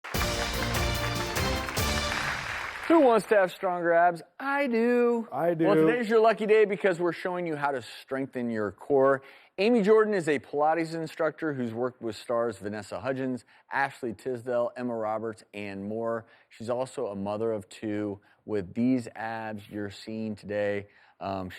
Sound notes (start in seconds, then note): 0.0 intro music; 0.0 audience applauding